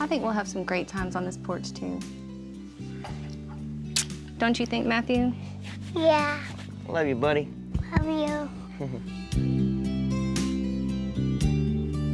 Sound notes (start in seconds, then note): 3.9 smooch